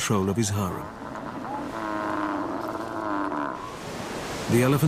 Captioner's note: triumphant bleating